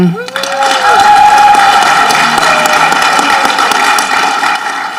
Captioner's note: audience clapping